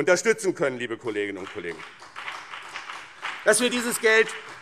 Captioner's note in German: Vereinzelter Beifall BÜNDNIS 90/DIE GRÜNEN und CDU